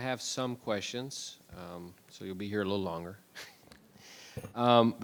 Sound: laughs

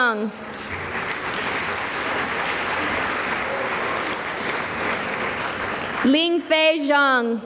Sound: applause

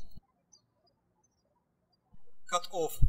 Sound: birds chirping

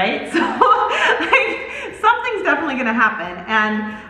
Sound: laughs

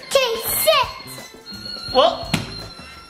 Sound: dogs whining and balloon sounds

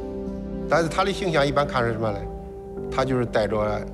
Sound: speaking Chinese

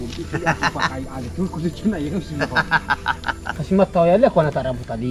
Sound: laughing

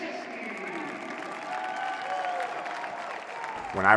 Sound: crowd cheering

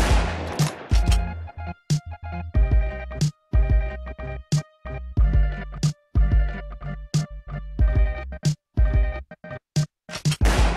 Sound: gunshot

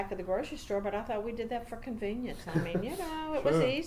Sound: laughs

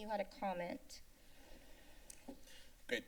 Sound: inhales

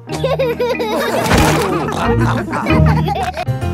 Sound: all laughing

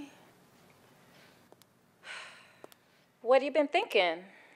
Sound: sighs

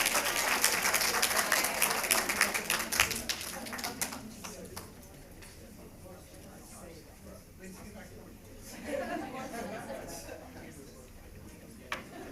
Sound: applause

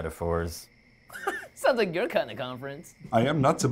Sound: laughs

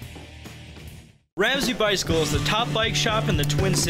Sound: voiceover

